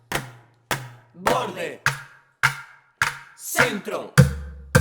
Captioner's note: hit on the rim of the bucket